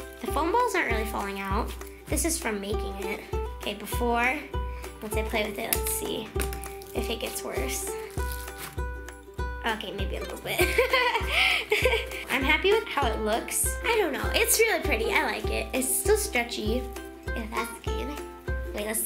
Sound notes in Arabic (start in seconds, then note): 10.6 يضحك